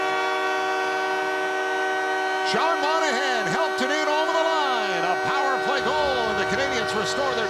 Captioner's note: horn; cheering